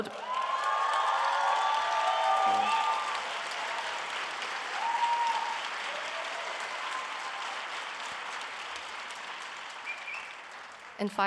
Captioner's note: applause